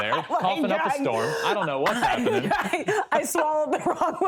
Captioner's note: coughs